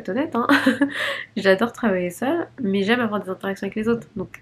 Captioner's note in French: rires